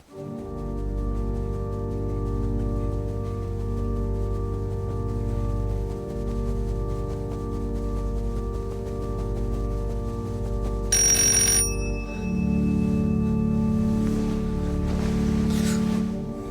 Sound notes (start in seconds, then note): 0.1 organ Music; 10.9 doorbell; 12.0 organ Music